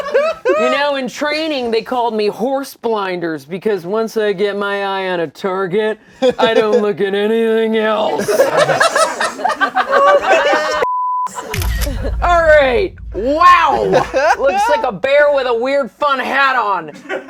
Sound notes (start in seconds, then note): 8.1 laughter; 11.4 camera snaps